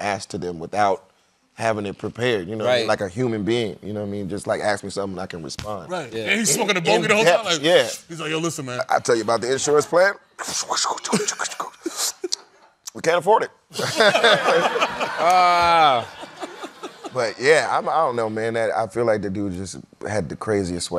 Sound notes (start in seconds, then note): 10.7 sucking air; 13.7 laughter